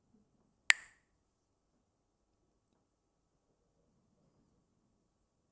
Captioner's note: clacks the sticks